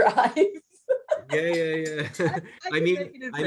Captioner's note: laughs